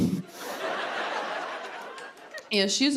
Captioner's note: laughter